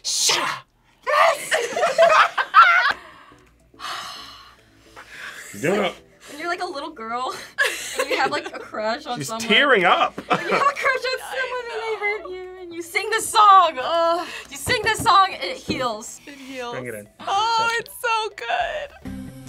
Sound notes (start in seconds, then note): 1.2 both laugh; 3.7 sighs